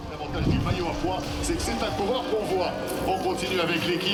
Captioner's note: commentator speaking French